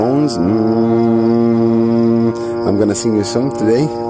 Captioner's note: hums